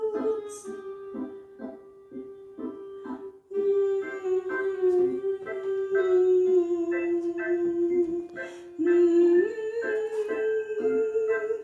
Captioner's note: humming